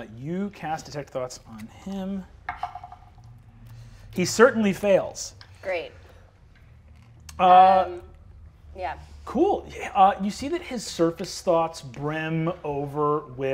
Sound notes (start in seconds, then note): 2.5 die taps table